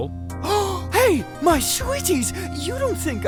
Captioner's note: gasps!